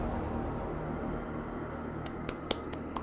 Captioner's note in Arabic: صوت الريح المشؤومة; تصفق